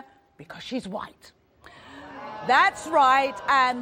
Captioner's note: crowd murmurs